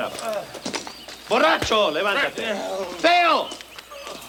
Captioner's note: Bruto speaks Spanish